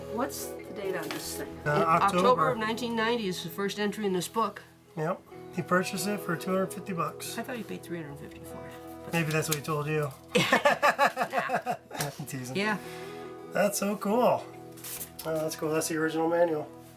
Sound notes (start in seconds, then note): 10.3 laughing